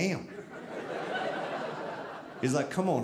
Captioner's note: audience laughing